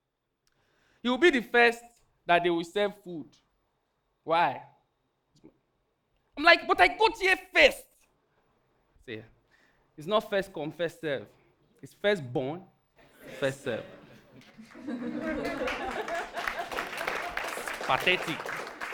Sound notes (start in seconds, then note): 14.1 audience applauding